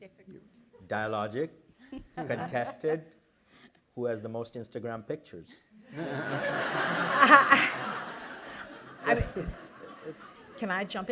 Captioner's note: laughter